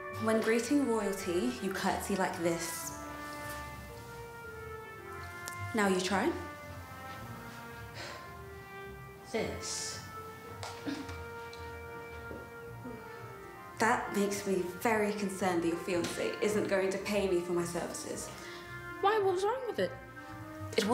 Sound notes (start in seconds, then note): 7.8 exhales; 10.9 grunts